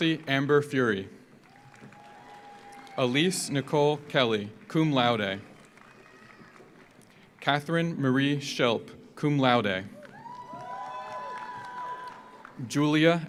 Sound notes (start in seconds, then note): 1.3 audience applauds; 1.4 audience cheers; 5.9 audience applauds; 10.0 audience applauds; 10.0 audience cheers